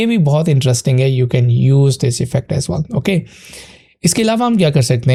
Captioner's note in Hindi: नाक से की जाने वाली आवाज़